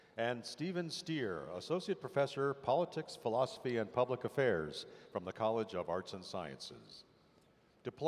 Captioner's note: none